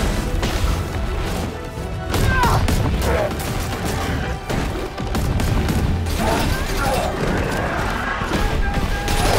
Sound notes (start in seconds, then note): 2.0 Kai yelling; 2.0 guns firing